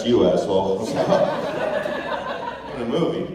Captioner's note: laughter